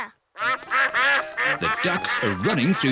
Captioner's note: quacking